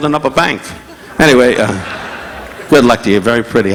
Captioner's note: audience laughing